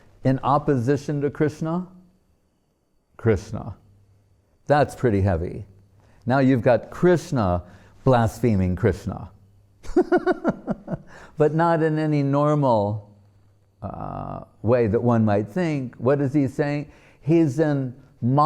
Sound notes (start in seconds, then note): 9.9 laughing